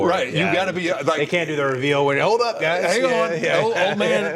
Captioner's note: laughing